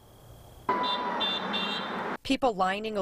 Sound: Nats honking

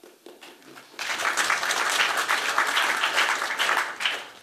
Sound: applause

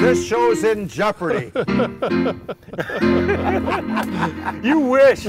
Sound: laughter

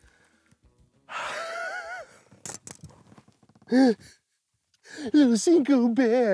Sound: laughs

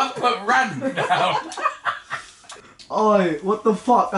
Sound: laughing

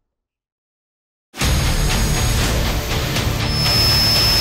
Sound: machine sound

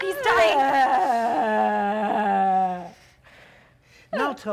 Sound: Sharik loudly groans

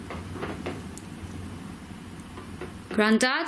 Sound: wall creaks

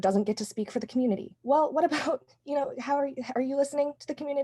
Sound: laughter

